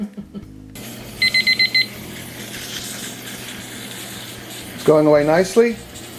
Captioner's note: timer beeping